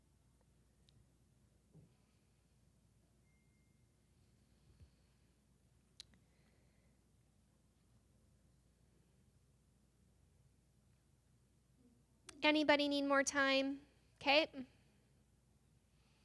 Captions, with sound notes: [Silence] Anybody need more time? Okay?